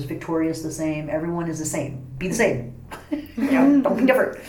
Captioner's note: all laugh